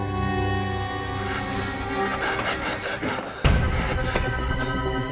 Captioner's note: panting; suspenseful music playing